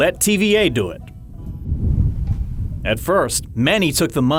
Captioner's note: wind blowing